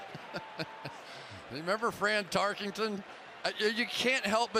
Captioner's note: laughs